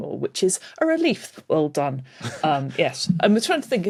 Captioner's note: snickers